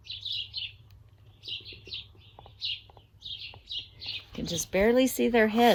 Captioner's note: birds chirping